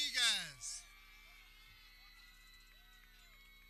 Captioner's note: people cheering